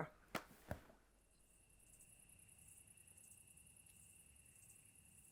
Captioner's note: crickets chirping